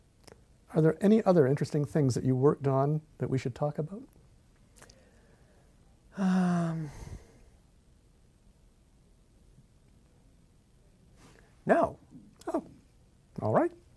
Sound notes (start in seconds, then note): 6.1 pause